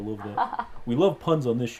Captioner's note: laughs